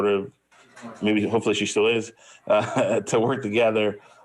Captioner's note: laughs